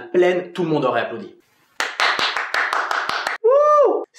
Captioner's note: applause